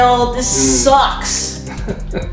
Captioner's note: laughter